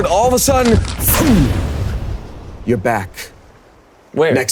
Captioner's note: loud wind whooshing